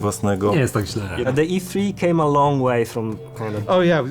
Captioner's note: in English